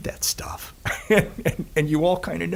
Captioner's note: laughing